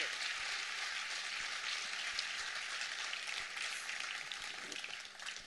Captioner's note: continuing applause